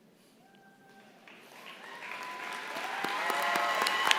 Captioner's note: applause